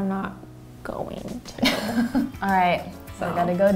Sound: laughs

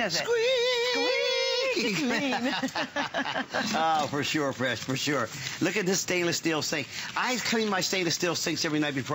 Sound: laughter

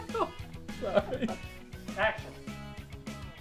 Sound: laughter

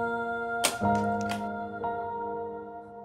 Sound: door opening

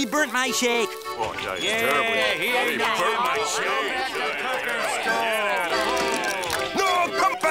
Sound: yelling, grumbling

